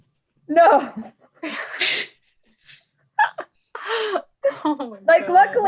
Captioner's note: laughs